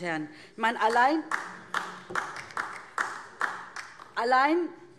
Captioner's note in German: Beifall DIE LINKE